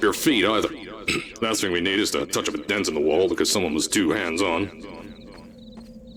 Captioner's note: ahem